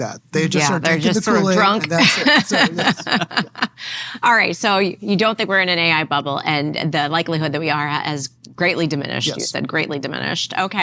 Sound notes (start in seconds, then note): 1.6 laughter